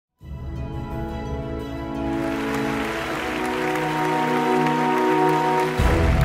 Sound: calm music; audience applauding

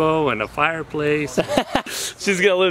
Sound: laughter

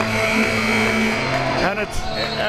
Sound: buzzer ringing

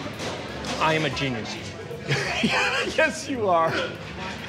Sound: laughing

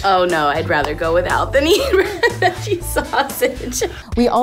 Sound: laughs

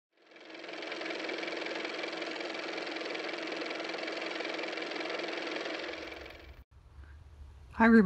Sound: car motor

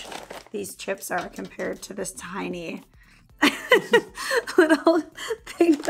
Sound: laughs

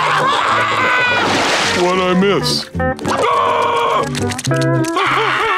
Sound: screaming; screaming

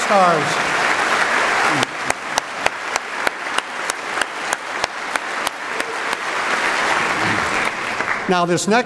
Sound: applause

